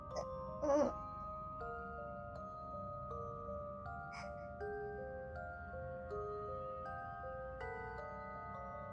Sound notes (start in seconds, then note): 0.6 confused rabbit noises; 4.1 gasp of resolution